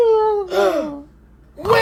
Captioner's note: gasps